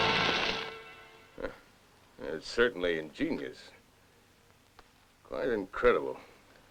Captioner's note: chuckles